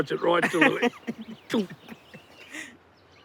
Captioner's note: laughs